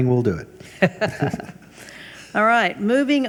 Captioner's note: laughs